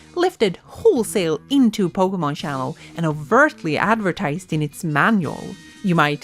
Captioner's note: none